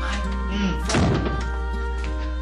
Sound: door closes

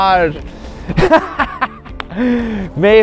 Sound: laughs sinisterly

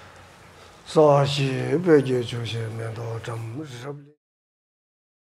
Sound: speaks foreign language

